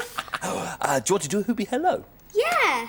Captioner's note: laughs